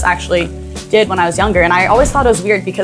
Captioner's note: instructions whooshing